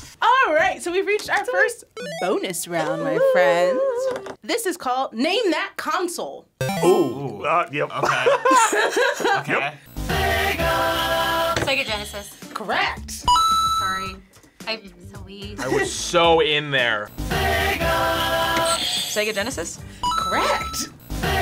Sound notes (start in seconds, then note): 7.9 laughs; 13.2 buzzer rings; 20.0 buzzer rings